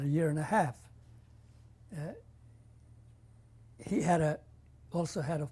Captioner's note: pauses for 3 seconds